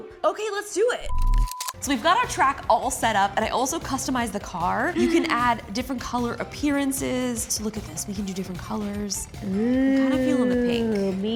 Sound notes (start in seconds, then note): 1.0 beep